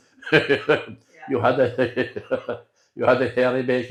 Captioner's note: laughter